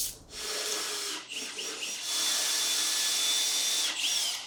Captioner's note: drill whirring